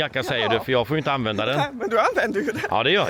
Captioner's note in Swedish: skratt